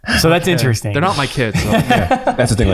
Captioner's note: chuckles; laughs